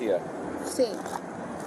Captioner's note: speak in Foreign language